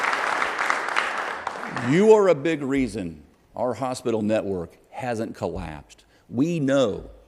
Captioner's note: applause